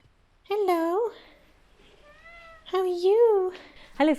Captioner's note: sweetest *Rrrmooow